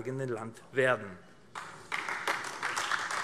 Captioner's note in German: Beifall AfD